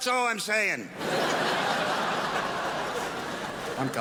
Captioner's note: crowd laughs